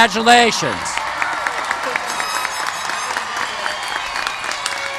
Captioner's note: cheers and applause